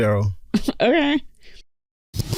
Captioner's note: pfft